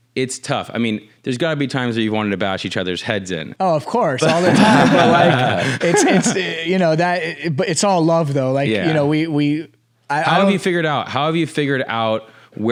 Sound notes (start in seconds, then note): 4.2 everyone laughing